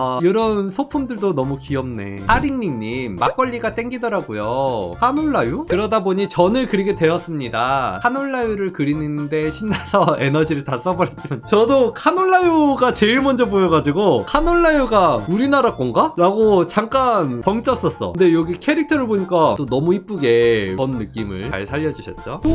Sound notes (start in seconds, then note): 5.6 voiceover